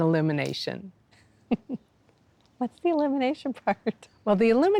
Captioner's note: laughs